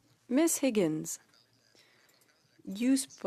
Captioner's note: speaking French